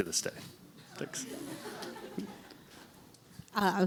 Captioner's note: laughter